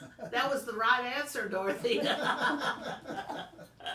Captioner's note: laughing